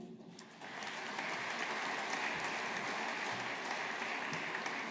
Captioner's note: audience applauding